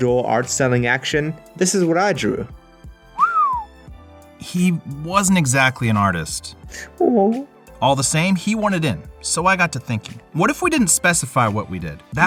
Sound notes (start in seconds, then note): 3.1 whistles